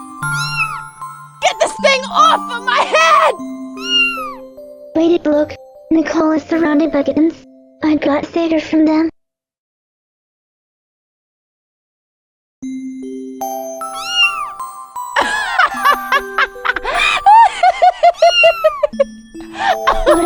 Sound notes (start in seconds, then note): 0.3 meow; 4.3 meow; 14.5 meow; 15.2 laughing in agony; 18.3 meow; 18.6 laughing in agony